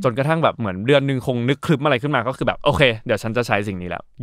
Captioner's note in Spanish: none